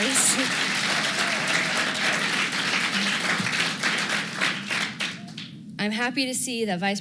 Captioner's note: applause